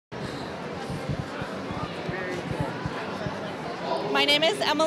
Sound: crowd chattering distantly

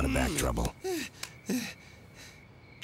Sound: <i>panting</i>

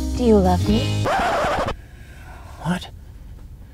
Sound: record scratching

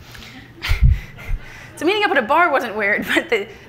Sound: laughs

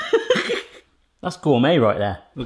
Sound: laughs

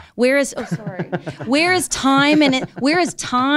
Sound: laughing

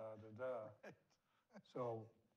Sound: laughs

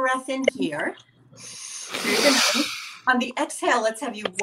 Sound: inhaling

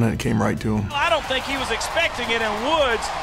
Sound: voiceover

